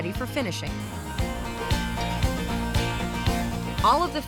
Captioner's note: spraying